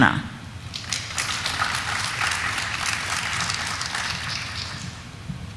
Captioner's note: audience applauding